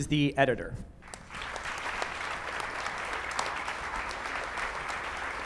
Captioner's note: audience clapping